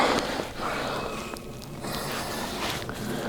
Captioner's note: elk bugling